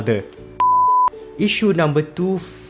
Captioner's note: beep